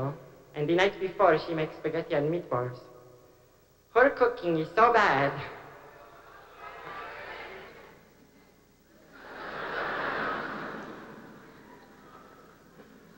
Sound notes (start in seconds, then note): 8.9 laughter